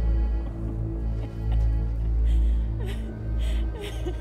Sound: laughing

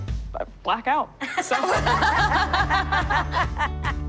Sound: laughter

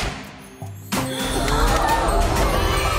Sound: all gasping; cheering

